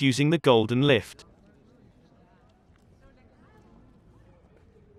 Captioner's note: people chattering